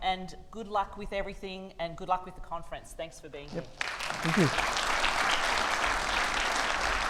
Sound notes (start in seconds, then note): 5.5 audience applauding